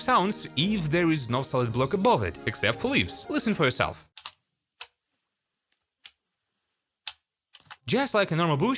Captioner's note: the buzzing of the fireflies